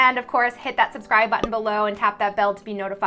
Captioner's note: button pops